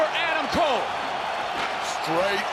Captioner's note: crowd cheers